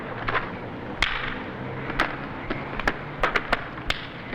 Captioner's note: punches thudding